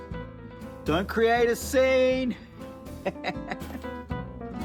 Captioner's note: laughs